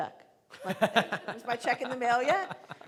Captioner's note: laughing